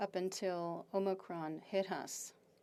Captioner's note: speaking French